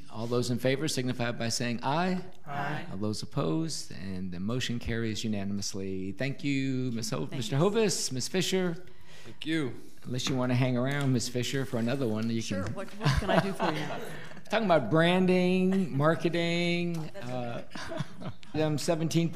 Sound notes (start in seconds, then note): 13.0 audience laughing; 17.0 laughing